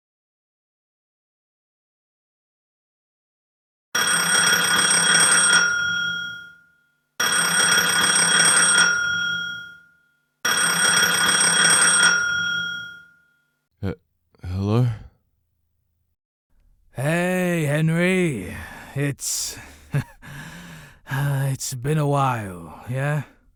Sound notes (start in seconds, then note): 3.8 phone rings